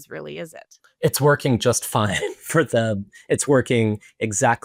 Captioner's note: laughs